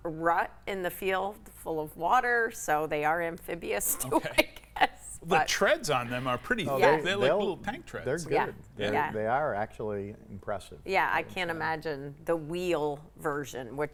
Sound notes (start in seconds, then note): 3.9 laughs